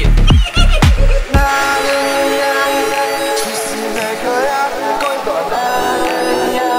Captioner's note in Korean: 꿀꺽